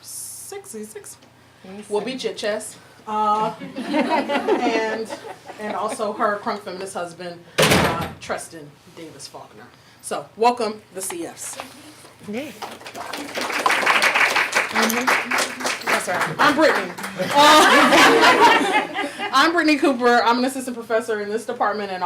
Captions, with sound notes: he’s six? He’ll beat you at chess. (audience laughing). And also her crunk feminist husband Teston Davis-Faulkner, so welcome the CFs. (audience clapping) Yes sir, I’m Brittney. (audience laughing) I’m Brittney Cooper, I’m assistant professor in this department